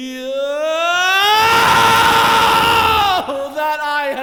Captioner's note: agonizing Scream